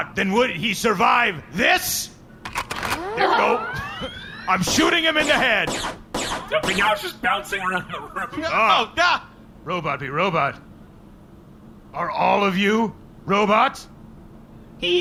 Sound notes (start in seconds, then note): 2.4 sound of gun charging up; 4.6 several shots fire